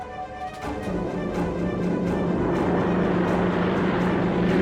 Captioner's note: airplane roaring